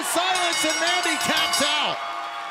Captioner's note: bell ringing